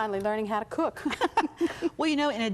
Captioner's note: both chuckle